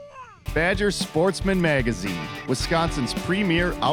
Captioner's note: voiceover